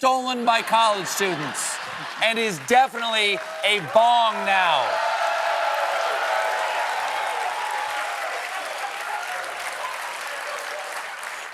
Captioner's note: cheering